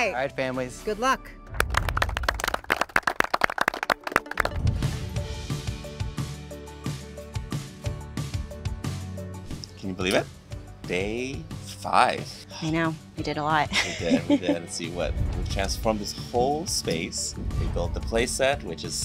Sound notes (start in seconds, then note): 1.5 participants clapping; 3.5 bright upbeat music; 13.7 chuckles